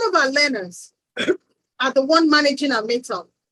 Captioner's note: coughs